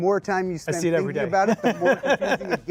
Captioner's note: laughs